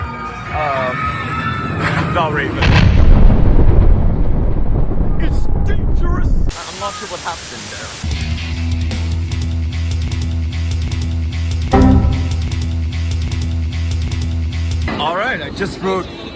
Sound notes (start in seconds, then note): 2.6 Yucock Striker explodes; 11.7 Windows XP error sound